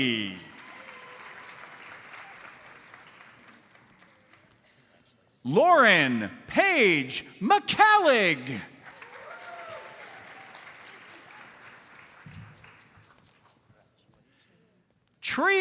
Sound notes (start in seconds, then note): 0.0 audience applauds; 8.8 audience applauds